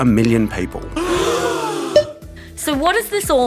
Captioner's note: gasping